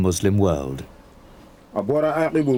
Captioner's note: man speaking Malian